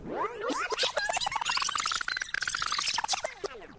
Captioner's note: fast Forward sound